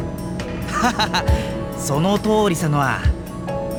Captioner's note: laugh